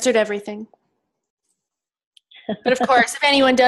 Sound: laughs

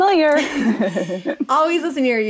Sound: laughing

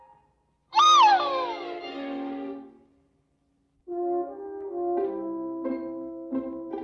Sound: screaming

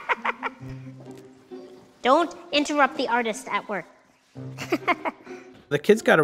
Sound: laughing; laughing

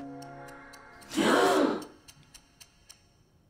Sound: all gasp

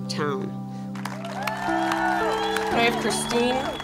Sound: applause

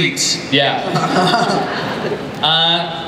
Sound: laughter

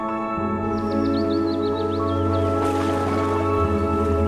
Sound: birds chirping

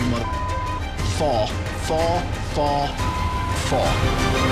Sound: beep; beep

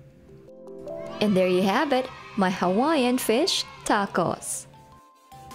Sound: kids cheering

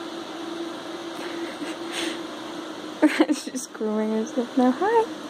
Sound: laughing

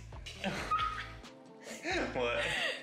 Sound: laughing

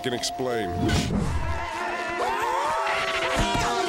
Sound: clamoring

